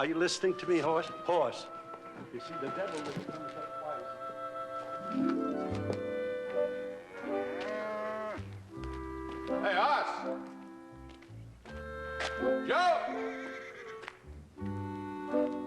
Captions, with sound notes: ARE YOU LISTENING TO ME, HOSS? HOSS? YOU SEE, THE DEVIL WIND... ( cow mooing ) HEY, HOSS! ( horse neighs ) JOE!